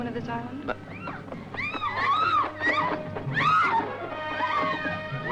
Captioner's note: women screaming